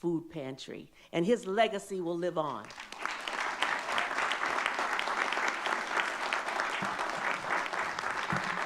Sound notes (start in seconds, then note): 2.5 all clapping